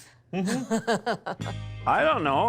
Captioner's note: laughing